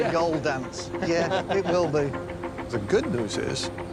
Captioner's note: laughter